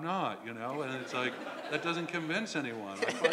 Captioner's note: laugh